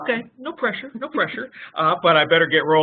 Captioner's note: laughing